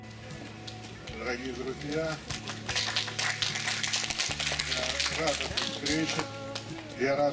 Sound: burst of applause

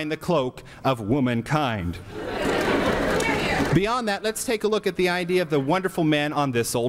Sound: laughter and here here

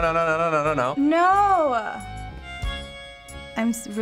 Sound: sulkily

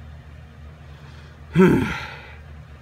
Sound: sigh

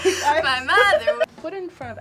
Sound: React laughs

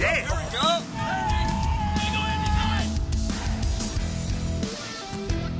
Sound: players yelling; upbeat music

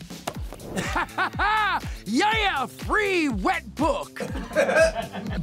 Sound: laughs; laughing

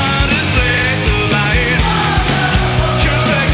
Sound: crowd

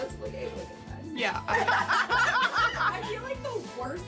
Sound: all laugh

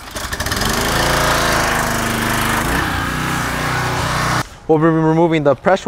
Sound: pressure washer engine whirring

